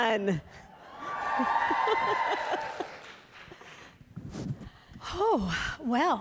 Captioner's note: applause